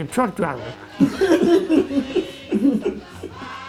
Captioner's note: laughter